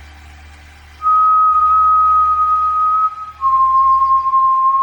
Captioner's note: Hercules whistling